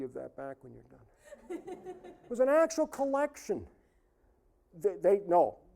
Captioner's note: audience laughing